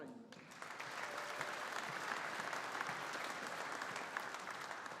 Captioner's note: audience applauding